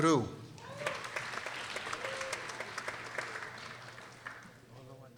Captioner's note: people applauding